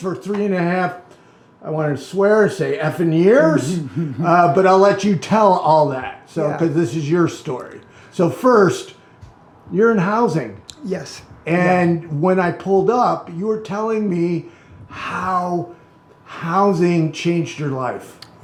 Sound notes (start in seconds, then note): 3.6 laughing